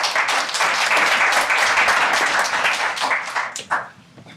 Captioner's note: audience applauding